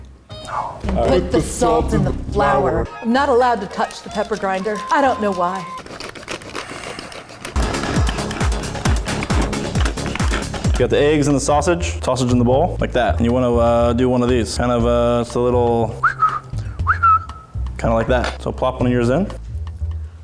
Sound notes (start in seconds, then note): 0.5 whispers; 2.3 ominous voice; 5.9 pepper grinding; 7.6 techno music; 15.9 whistles